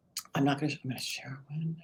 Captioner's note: speaks under breath